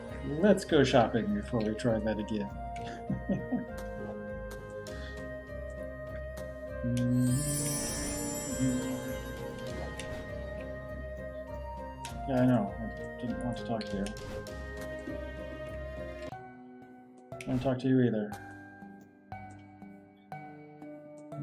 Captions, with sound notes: Let's go shopping before we try that again. [laughs] [humming along] Yeah, I know— I didn't want to talk to you. Don't talk to you either.